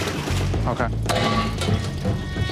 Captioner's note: clattering